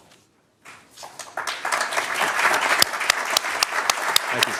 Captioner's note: applause